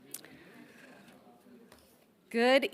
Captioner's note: people chattering